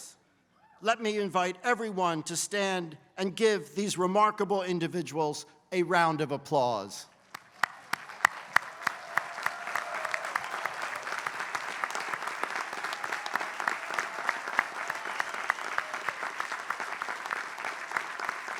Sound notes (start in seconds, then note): 7.2 applause